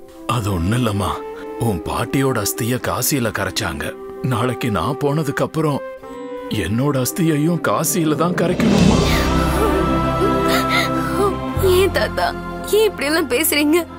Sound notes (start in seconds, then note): 9.1 crying